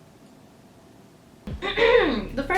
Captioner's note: clears throat